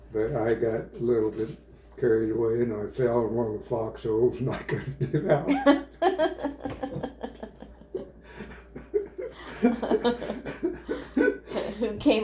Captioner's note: laughter